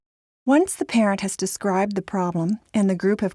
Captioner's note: voiceover